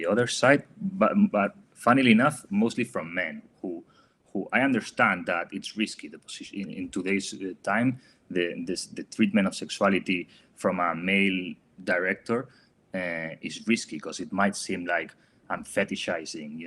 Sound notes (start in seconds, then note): none